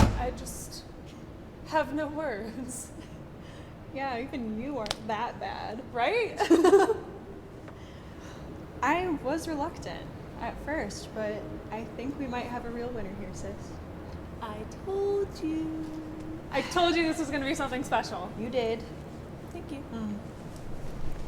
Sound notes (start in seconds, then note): 6.4 both chuckle